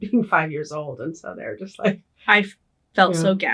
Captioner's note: laughing